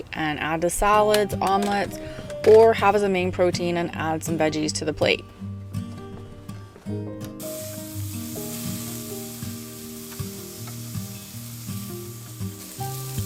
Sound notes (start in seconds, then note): 7.4 grill sizzling; 10.7 calm music